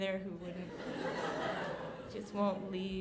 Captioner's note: laughing